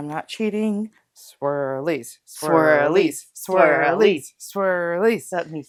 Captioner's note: chanting